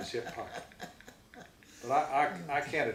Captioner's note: laughs